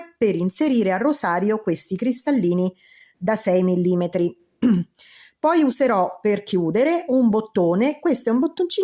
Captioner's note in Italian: schiarire la voce